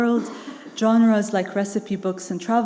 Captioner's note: attendee coughing